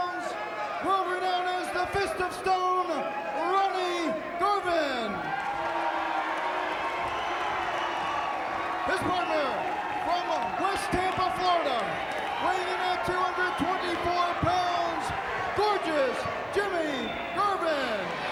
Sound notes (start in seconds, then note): 5.7 fans cheering